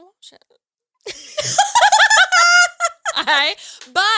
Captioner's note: all laughing